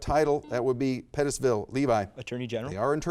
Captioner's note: buzzer buzzes